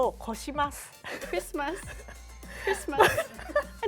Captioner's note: speaking Japanese; laughter